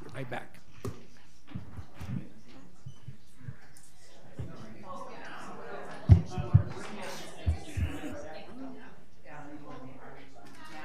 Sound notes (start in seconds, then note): 3.0 crowd chattering